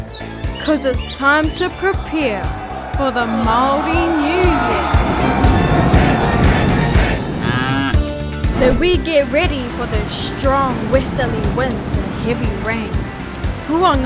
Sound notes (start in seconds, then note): 4.9 people cheering; 4.9 upbeat music; 7.2 cow mooing